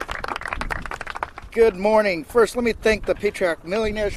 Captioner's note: applause